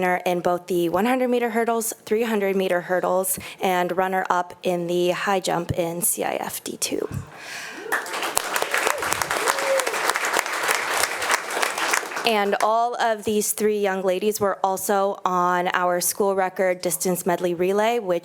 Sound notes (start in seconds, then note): 7.7 attendees applauding